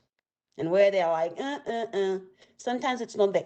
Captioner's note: imitating objection